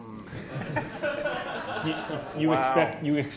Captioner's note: laughter